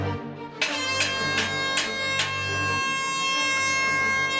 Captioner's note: air horn sounds